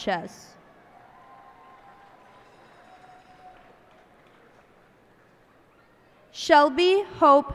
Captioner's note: cheers and applause